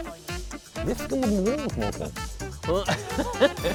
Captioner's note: murmuring; laughing